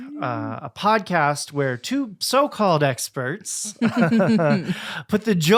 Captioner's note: both laughing